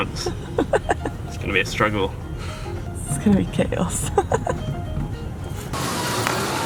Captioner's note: laughs; laughs